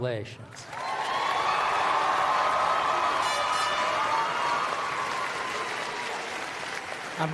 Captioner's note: applause